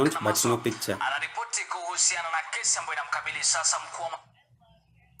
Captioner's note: TV sound